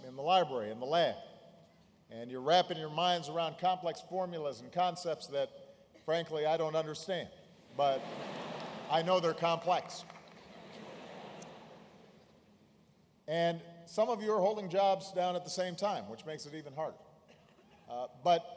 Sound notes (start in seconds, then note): 7.8 laughter